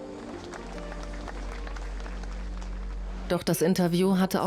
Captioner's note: audience applauds